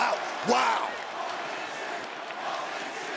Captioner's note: crowd cheers